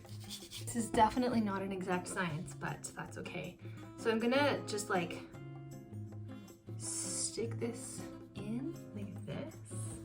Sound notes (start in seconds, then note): none